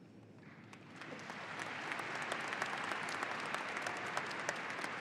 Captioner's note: audience applauding